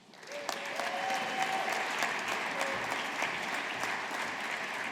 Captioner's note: audience applauding